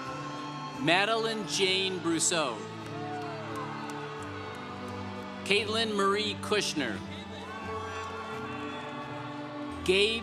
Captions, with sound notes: Madeleine Jane Brousseau. (congregation cheering) Kaitlyn Marie Kushner. (congregation cheering)